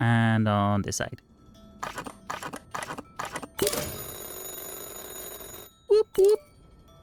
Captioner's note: phone ringing